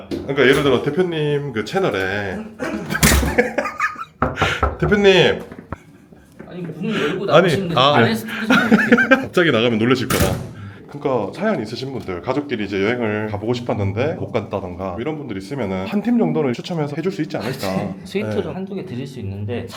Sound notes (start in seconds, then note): 2.5 chuckles; 2.9 knock, knock, knock